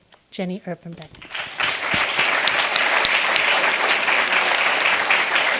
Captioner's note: applause